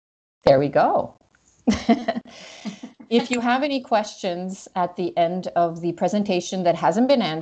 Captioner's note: laughs